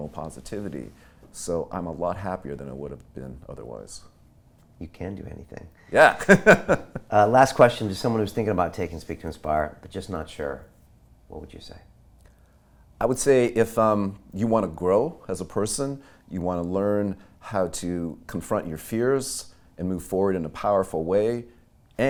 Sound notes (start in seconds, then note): 6.0 laughing